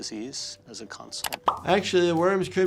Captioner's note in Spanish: clic del mouse; burbuja estallando